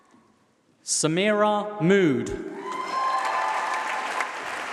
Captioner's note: applause